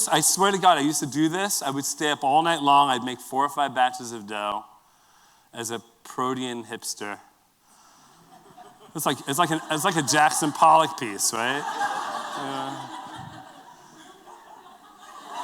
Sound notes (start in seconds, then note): 11.7 laughter